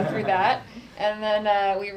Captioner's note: laughter